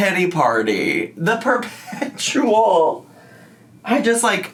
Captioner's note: laughs